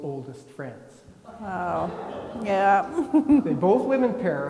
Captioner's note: laughs; attendees laughing